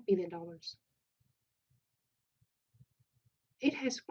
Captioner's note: pause